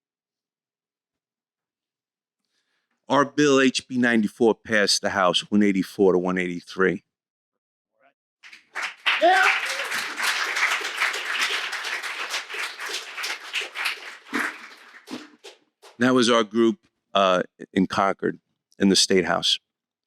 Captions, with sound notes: Our bill, HB 94, passed the House (Crowd Applause) Yeah. That was our group, in Concord in the state House.